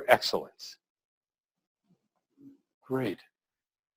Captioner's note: pause